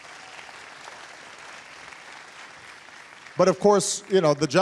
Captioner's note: applause